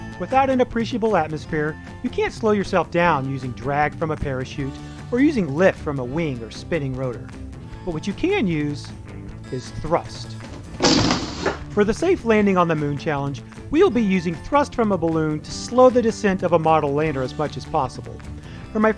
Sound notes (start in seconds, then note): 8.8 balloon sputters